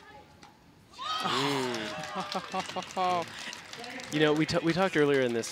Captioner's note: laughing